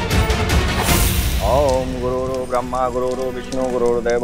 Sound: reciting mantra

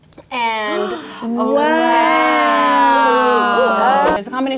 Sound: gasps

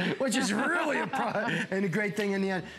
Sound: laughter

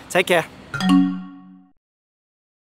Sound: logo chiming

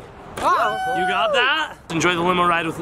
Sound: cheers

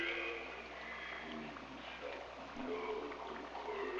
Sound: liquid bubbling

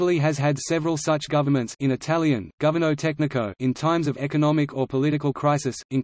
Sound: in Italian, governo tecnico

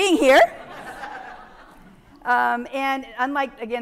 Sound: audience laughing

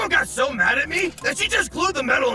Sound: armor clinks

